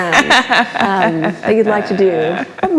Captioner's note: laughs